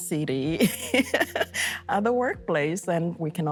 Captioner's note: laughs